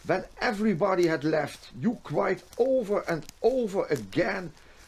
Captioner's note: none